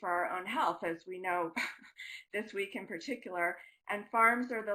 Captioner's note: laughing